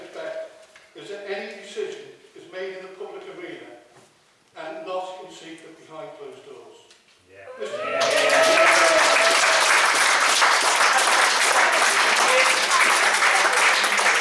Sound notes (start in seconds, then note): 11.2 applause